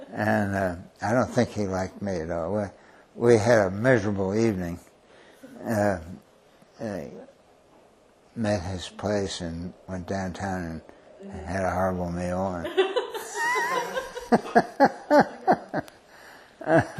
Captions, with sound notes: And I don't think he liked me at all. We had a measurable evening-- met at his place, and went downtown, and had a horrible meal and-- [LAUGHTER]